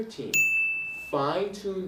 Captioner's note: bell rings